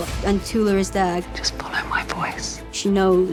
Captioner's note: whispers